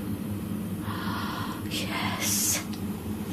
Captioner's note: gasps